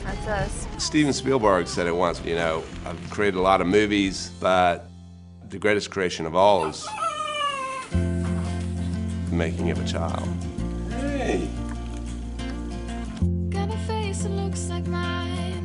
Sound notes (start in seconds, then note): 6.6 baby crying